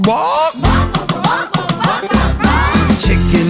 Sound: kids repeat

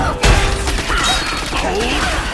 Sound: shooting; crashing

